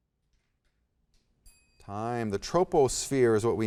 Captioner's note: soft chiming